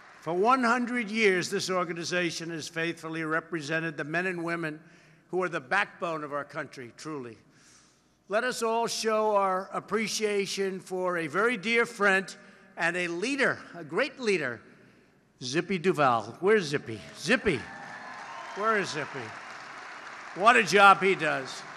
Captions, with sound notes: For 100 years, this organization has faithfully represented the men and women who are the backbone of our country, truly. Let us all show our appreciation for a very dear friend and a leader -- a great leader -- Zippy Duval. Where’s Zippy? Zippy. (applause) Where is, Zippy? What a job he does.